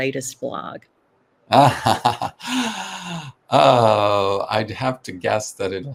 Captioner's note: laughs